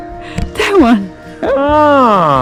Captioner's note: laughing